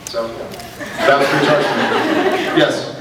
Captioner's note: laughs